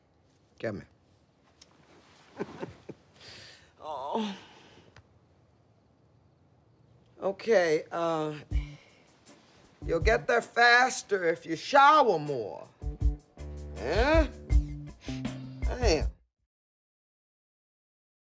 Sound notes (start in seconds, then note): 2.2 chuckles; 15.0 sniffs